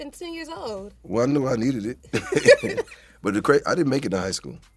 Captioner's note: laughs